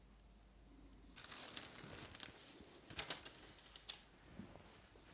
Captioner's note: paper rustling